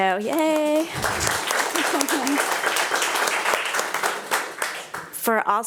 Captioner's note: attendees applauding